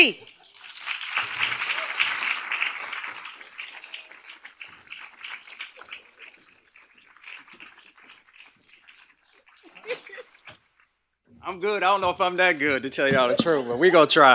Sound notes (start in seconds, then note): 0.3 applause; 9.6 laughs